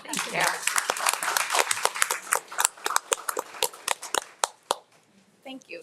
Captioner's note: attendees and trustees applauding